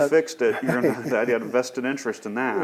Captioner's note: laughs